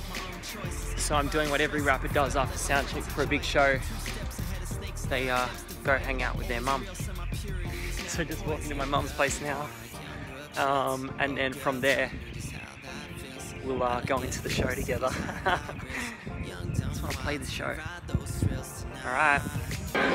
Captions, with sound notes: so I'm doing what every rapper does after sound check for a big show... they, go hang out with their Mum Just walking to my Mum's place now And then from there, we'll go into the show together (laughter) Just want to play the show now...